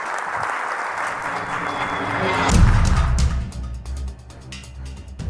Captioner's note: audience applauds; suspenseful music